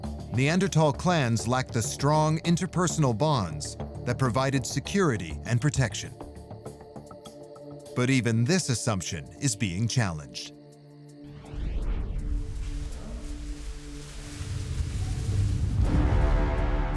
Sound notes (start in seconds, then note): 11.8 bubble wrap rustling; 15.4 ominous music